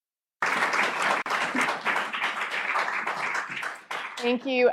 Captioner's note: applause